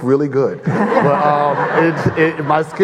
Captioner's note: audience laughing